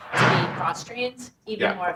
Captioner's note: object crashing drowns out